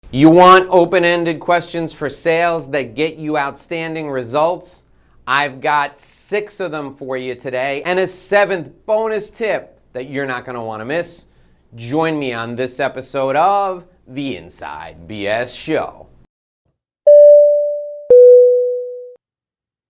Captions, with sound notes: - You want open-ended questions for sales that get you outstanding results, I've got six of them for you today. and a seventh bonus tip that you're not gonna wanna miss, join me on this episode of the Inside BS Show. (beep)